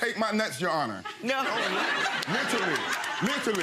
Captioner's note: audience laughing